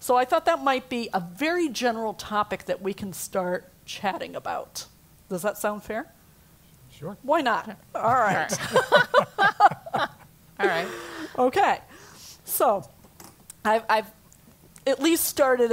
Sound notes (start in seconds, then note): 8.0 laugh